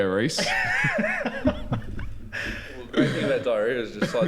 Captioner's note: giggles